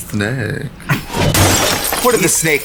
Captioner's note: glass tinkles